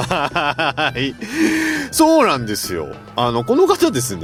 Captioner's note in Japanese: 笑い